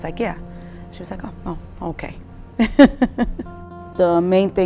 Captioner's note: chuckling